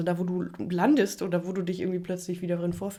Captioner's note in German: none